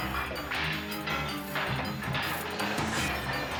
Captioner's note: glass shattering; items banging; dramatic music